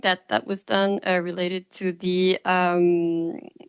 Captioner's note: speaking French